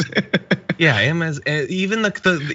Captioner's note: laugh